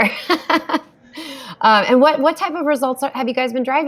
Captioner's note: laughs